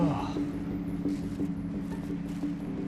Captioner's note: sighs